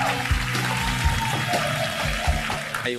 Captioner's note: applause